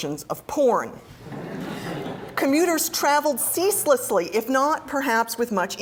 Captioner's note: laugh